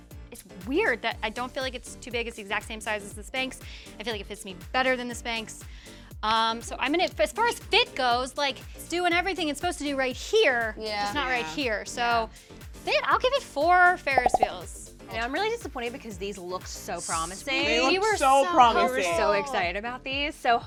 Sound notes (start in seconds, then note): 14.2 popping